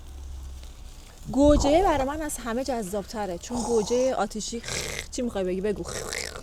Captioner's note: snorting sound